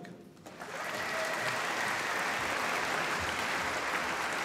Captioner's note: applause